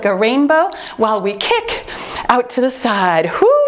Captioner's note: timer beeps